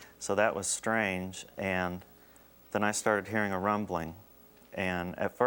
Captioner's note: none